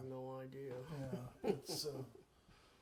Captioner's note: chuckles